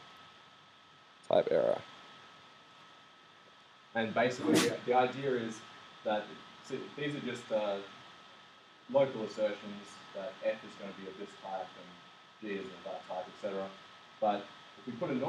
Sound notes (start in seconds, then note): 8.9 static